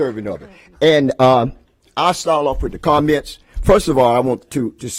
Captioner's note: applause